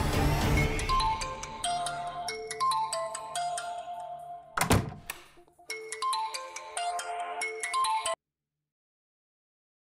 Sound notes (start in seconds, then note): 1.0 phone ringing; 4.5 door closes